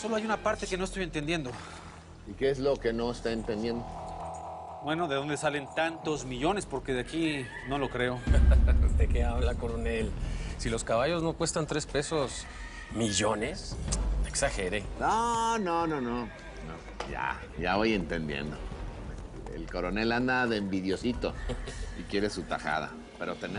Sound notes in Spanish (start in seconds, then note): 8.2 Risas